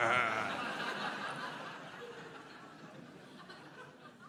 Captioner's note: mysterious laugh; crowd laughing